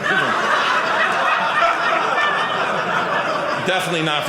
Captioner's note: audience laughing